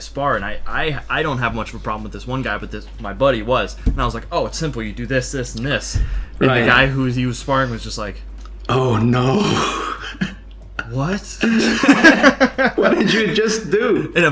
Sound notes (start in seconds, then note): 11.4 both laugh